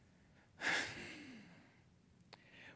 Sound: sigh

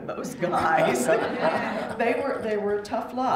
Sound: laughter

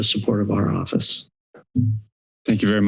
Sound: silence

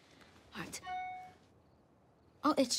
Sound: cellphone chimes

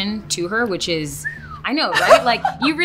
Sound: whistling

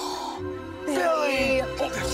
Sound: both gasp

